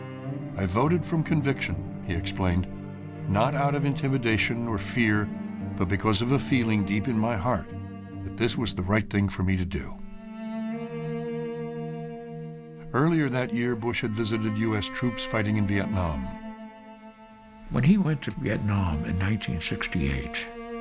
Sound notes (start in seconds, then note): none